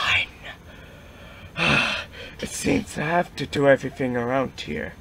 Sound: sighs

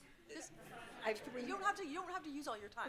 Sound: audience laughing

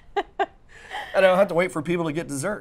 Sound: laughs

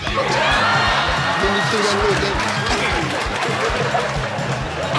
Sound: audience cheering

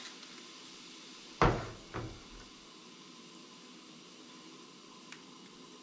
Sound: water running

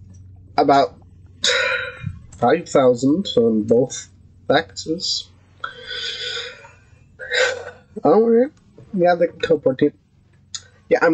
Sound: sigh

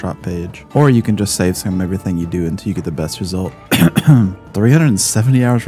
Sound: cough cough

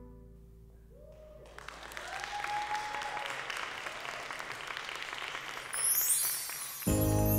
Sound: applause

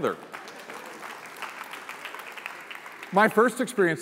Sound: applause

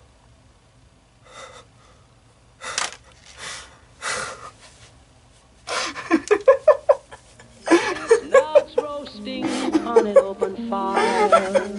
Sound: laughing

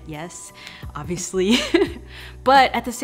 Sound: chuckles

